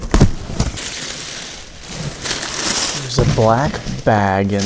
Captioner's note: paper crinkling